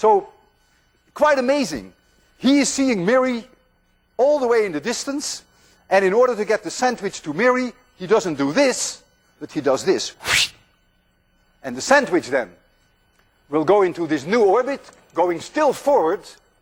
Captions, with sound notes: So quite amazing. He is seeing Mary all the way in the distance, and in order to get the sandwich to Mary, he doesn't do this, but he does this, [whooshes] And the sandwich then will go into this new orbit, going still forward.